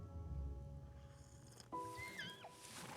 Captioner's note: squeaks